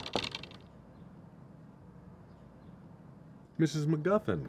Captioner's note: intense knocking